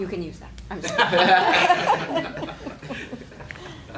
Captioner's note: laughing